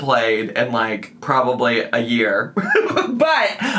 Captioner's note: laughs